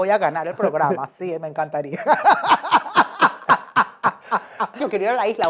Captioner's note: evil laughter